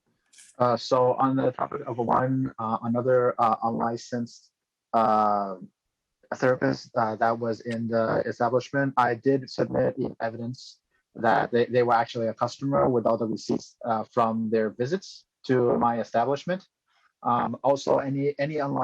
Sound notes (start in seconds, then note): 3.4 speaking chinese